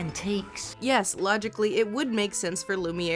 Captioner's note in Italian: voce fuori campo